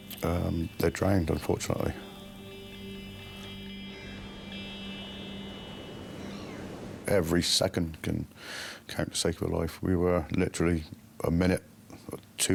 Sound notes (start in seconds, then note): 2.4 gentle music; 3.9 seagulls squawking